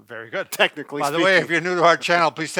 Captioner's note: chuckles